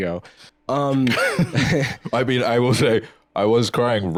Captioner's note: laughs